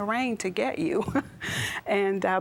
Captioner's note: giggle